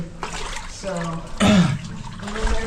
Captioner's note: grunts